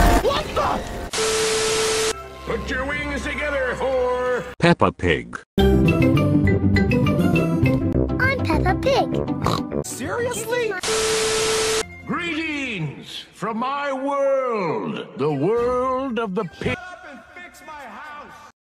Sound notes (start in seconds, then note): 9.4 oink